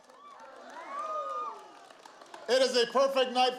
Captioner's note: applause